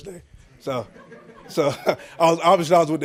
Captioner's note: crowd laughing